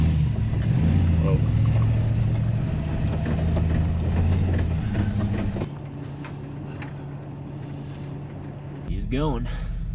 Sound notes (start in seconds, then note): 0.7 truck rumbles